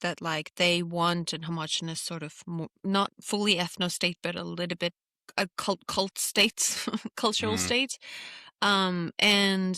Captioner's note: laughs